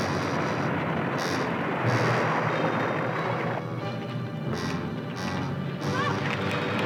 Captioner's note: thunder rumbling